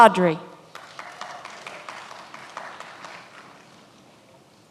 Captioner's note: many applauding